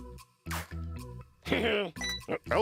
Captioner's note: laughs